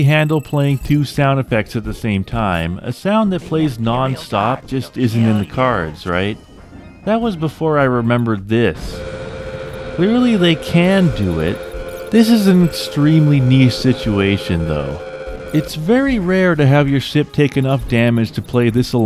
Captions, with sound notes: handle playing 2 sound effects at the same time, a sound that plays non stop just isn’t in the cards, right? That was before I remembered this [Eject alarm]. Clearly they can do it. This is an extremely niche situation though. It’s very rare to have your ship take enough damage to play this